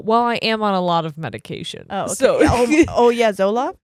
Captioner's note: laughs